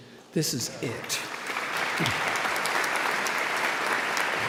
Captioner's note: audience applauding